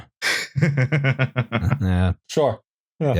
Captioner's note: chuckles